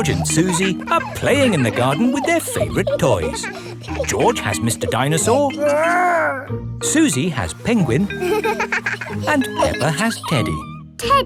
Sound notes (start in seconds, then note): 0.0 kids laughing; 7.4 giggles